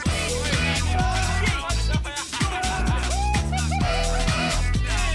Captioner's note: both laughing